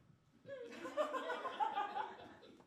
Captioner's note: triumphant laugh